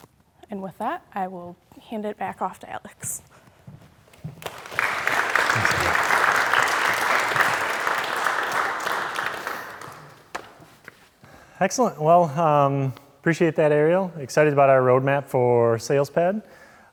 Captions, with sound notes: And with that, I will hand it back off to Alex. (audience clapping) - Excellent. Well, appreciate that, Arielle. Excited about our roadmap for Salespad.